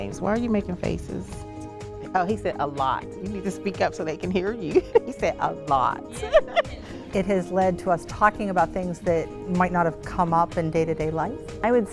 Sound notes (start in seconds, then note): 6.1 laughs